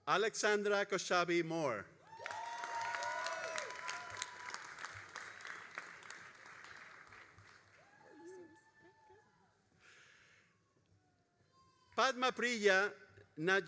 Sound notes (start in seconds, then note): 2.0 all applauding and cheering